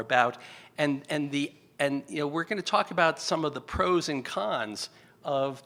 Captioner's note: stutters